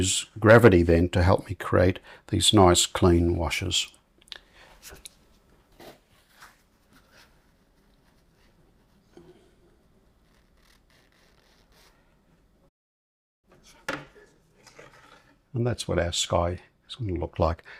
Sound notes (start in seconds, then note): 5.8 silence